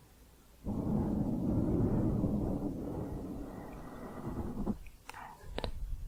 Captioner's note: mic scratching